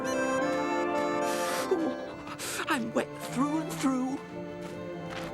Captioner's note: shivering